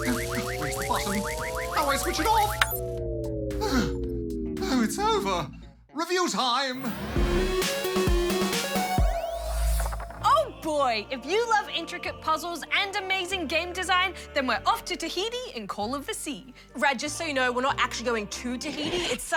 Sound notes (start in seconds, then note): 3.1 machinery winds down; 3.5 sighs